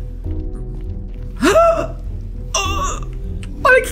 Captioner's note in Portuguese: faz som de surpresa